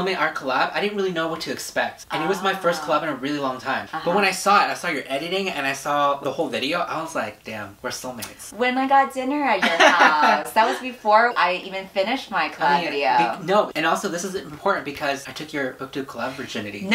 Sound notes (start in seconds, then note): 9.6 laughs